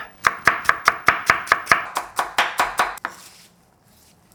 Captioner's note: knife chopping